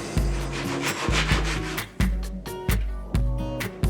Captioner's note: sandpaper scratching; bright upbeat music